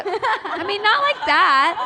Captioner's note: laughter